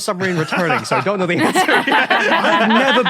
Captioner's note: group laughing